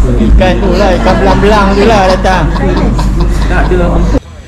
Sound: laugh

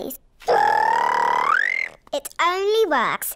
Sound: high-pitched whistle

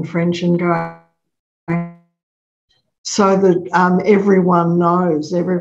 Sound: audio distorted

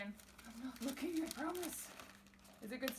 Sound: paper crinkling

